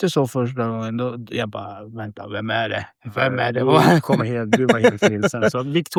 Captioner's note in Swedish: skratt